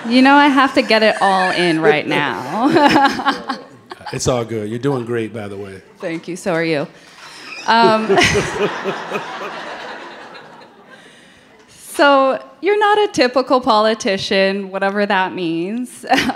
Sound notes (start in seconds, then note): 0.0 audience laughing; 3.5 laughs; 7.3 Brandon and audience laughing